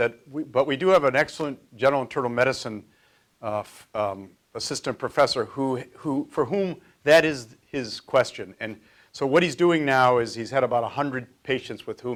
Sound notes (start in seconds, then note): none